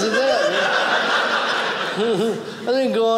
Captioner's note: audience laughing